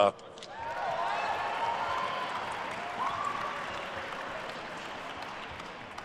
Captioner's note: attendees cheering and applauding